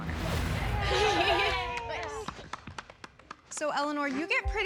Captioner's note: laughing